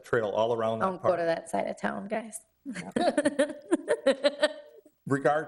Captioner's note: laughs